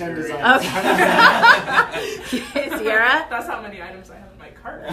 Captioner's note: laughs